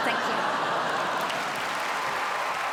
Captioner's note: crowd laughs and applauds